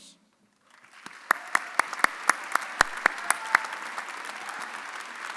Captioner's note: audience applauding